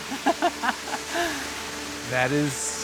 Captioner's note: laughing